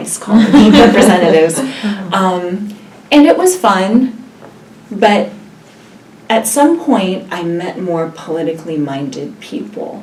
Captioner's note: laugh